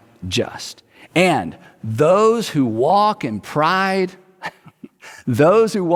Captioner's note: chuckles